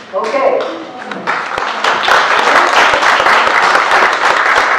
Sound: applause

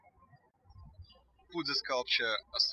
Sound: birds chirping

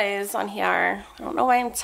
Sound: speaks with valley girl accent

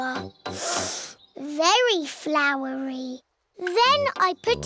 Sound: sniffs

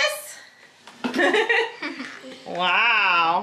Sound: laughs

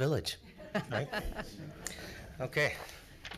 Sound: congregation chuckles

